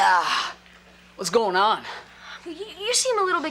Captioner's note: groans